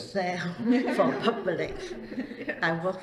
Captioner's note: all laugh